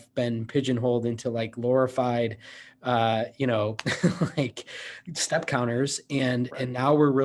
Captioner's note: laughs